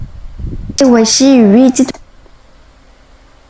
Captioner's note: normal voice